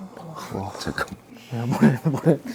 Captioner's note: haha